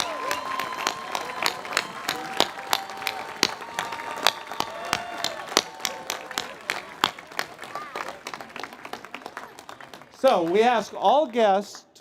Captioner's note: cheers and Applause